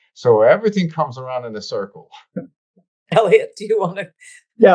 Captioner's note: laughs